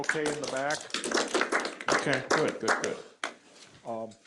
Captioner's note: applause